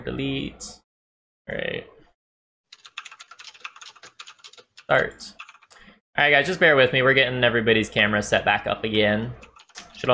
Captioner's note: typing